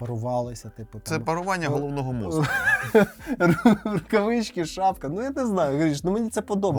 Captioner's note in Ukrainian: сміх